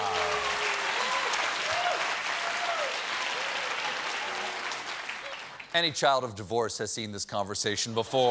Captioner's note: applause